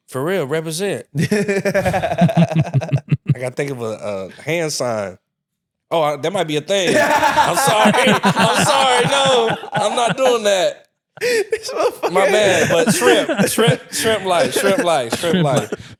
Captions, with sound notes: - For real, represent. (laughing) - I gotta think of a hand sign. Oh, that might be a thing. (laughing) I'm sorry, I'm sorry, no. I'm not doing that. My man, but shrimp, shrimp life, shrimp life, shrimp life.